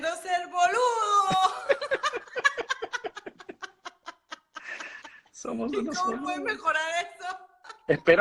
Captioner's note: laughing